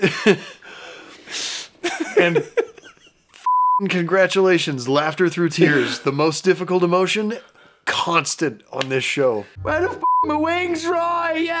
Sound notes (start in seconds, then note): 3.4 beeping